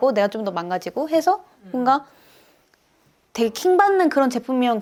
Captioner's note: she inhales